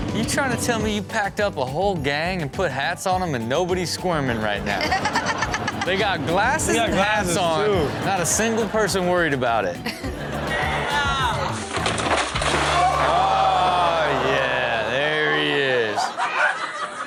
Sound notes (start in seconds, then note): 12.4 audience exclaims